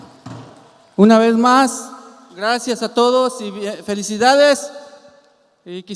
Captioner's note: speaking in Spanish